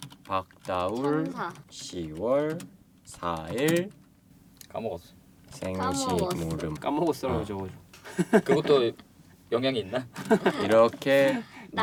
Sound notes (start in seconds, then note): 8.0 laughter